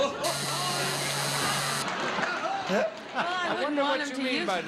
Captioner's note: audience groaning; buzzer